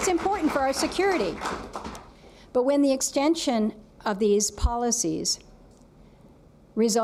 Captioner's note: applause